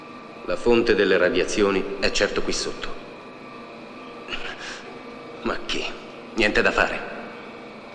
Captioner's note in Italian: sbuffare